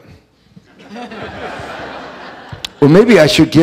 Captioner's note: audience laughing